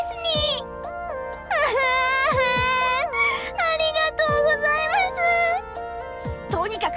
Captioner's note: sob